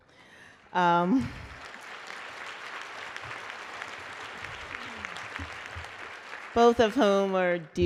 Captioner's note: applause